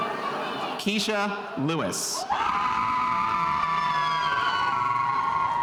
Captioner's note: spectators cheering